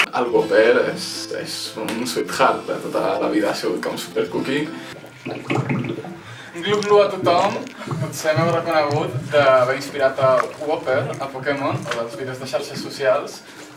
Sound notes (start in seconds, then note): 4.9 bubbles sound